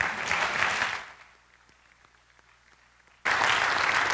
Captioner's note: applause